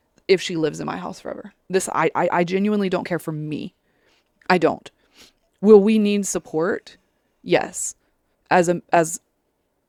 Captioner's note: sniffles